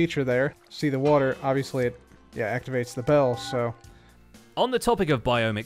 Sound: bell chimes

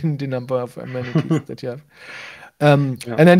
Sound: laughs

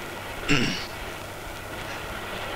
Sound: clears throat

